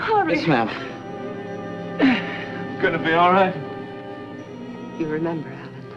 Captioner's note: strains